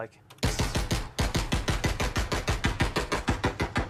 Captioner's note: gunshots